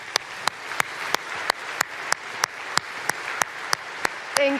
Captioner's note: applause